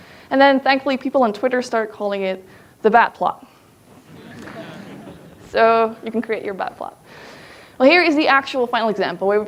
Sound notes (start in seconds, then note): 3.9 audience laughs